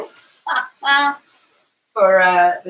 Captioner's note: laughs